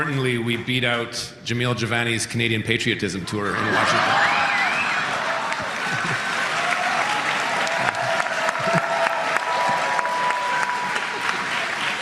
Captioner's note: laughter